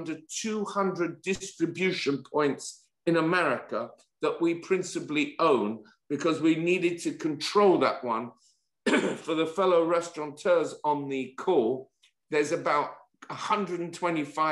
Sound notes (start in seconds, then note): 8.8 cough